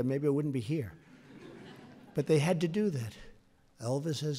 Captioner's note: laughter